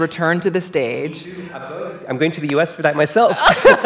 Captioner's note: laughter